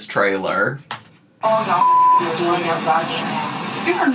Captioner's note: beep